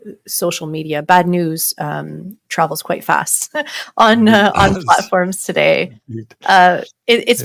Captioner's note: chuckles